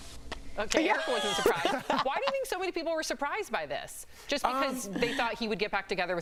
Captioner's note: laughter